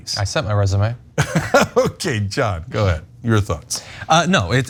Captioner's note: laugh